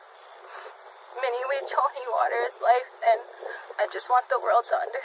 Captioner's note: speaks in Sioux